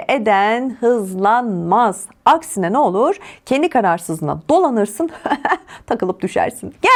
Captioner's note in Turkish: kahkaha